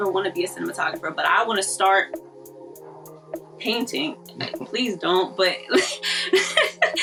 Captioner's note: laughs